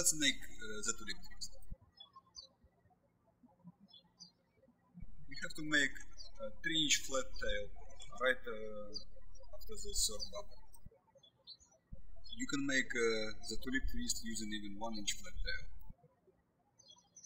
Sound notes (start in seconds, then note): 2.5 birds chirping